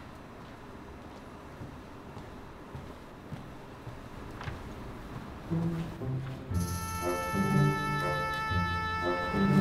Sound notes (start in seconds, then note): 2.3 footsteps patter; 5.4 contemplative music